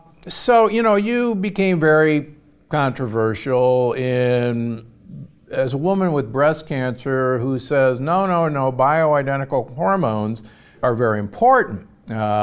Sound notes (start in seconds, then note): none